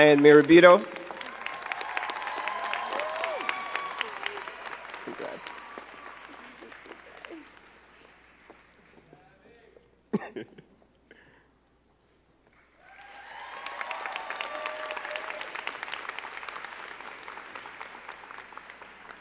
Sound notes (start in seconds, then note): 2.5 crowd cheering and clapping